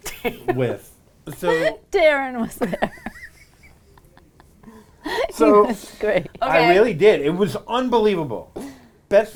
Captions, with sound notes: - Darren was there. (woman laughing) He was great. - I really did, it was unbelievable.